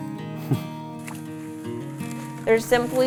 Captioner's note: chuckles